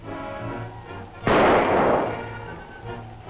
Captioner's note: gunshot